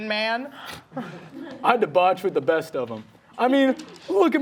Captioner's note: audience laughing